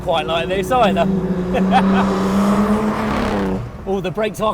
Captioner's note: he laughs